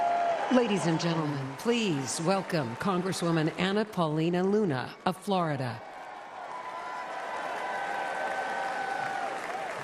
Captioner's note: applause